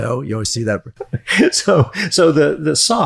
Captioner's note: laughs